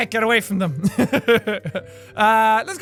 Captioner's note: laugh